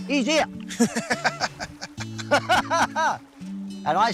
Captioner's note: laughs; both laughing